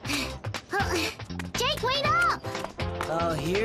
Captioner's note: breathing heavily